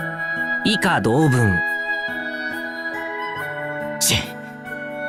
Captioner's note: out of breath